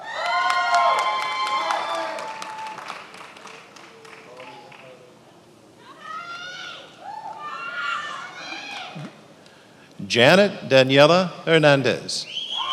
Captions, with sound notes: (attendees applauding) (attendees cheering) Jannet Daniella Hernandez.